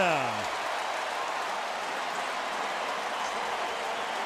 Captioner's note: cheering